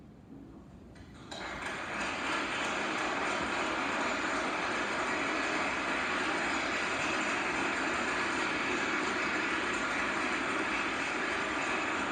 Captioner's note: applause